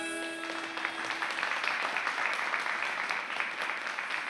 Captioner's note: audience applauding